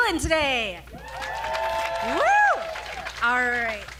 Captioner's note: audience applauding